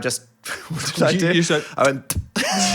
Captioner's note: spitting; Dan and crew laughing